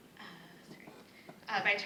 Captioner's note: none